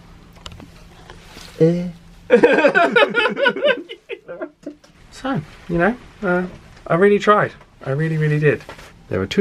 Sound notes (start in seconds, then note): 2.3 both laughing